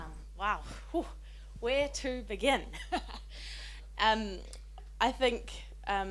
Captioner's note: laughs